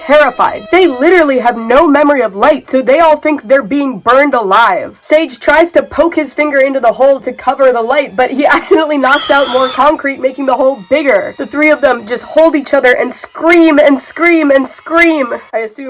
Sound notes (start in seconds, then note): 9.1 scream sound effect